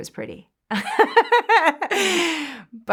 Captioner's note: laughter